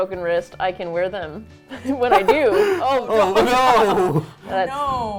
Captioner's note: laughs